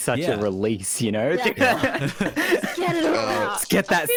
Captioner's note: chatter